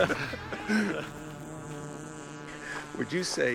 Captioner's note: both laughing; drone flying